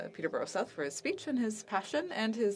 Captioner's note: speaking French